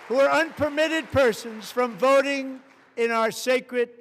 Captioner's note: applause